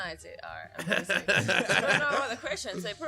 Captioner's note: laughter